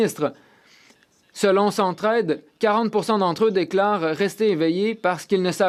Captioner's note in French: voix de l'interprète